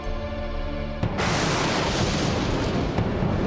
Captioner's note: thundering